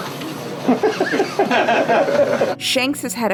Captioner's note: laughter